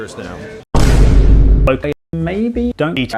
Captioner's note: Vine boom